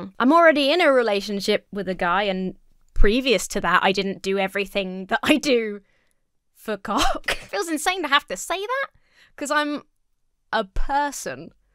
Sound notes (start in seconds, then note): 7.0 chuckles